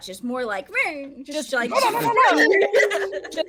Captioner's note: imitates speeding sound; laughing